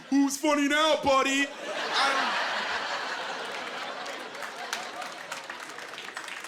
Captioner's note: laughing